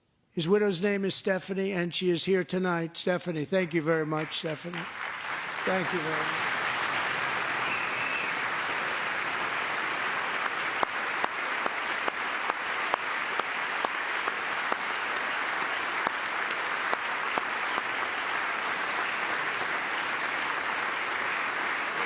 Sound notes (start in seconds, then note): 9.6 applause; 11.2 cheering